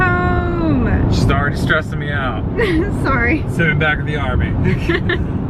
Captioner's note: laughs